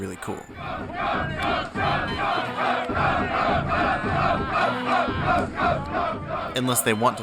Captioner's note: crowd